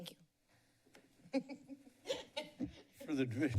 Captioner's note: laughs